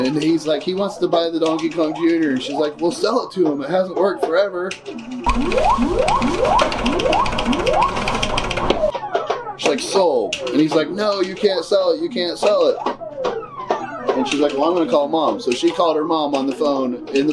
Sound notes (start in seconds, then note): 5.4 buttons clicking; 5.4 game beeping